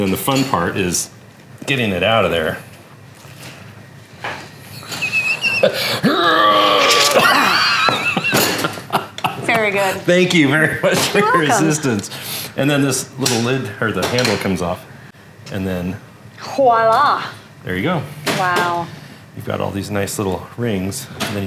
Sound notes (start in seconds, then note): 4.7 laughing, grunting; 7.2 laughing